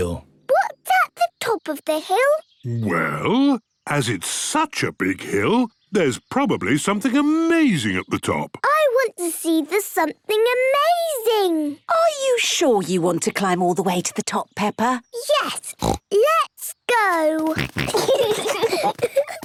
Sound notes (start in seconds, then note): 15.7 snorts; 17.4 snorting, giggling